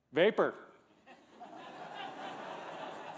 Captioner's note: laughter